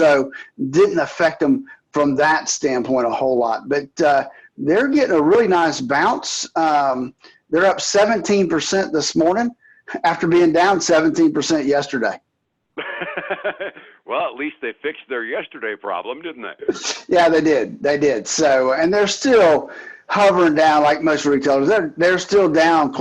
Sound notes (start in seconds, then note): 12.8 laughs